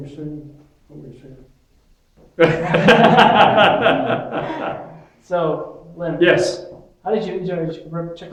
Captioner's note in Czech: smích